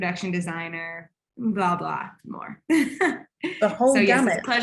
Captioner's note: laughing